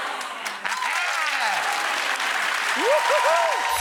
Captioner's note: applause